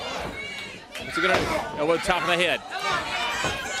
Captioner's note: crowd cheering